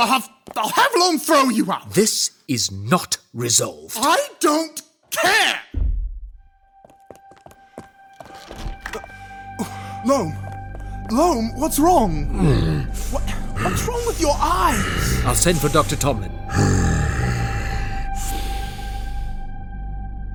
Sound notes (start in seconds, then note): 5.7 heavy thud; 8.1 rushed footsteps and door opening; 12.3 Loam breathing heavily